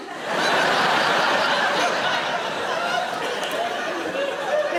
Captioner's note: audience laughing